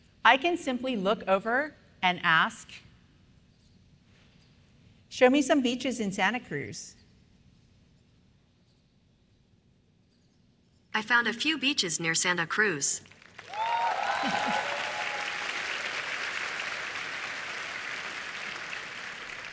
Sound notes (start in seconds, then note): 13.0 applause